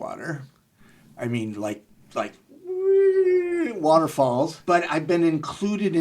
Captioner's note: groaning